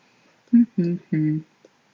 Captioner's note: more humming